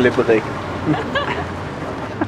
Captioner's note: laughs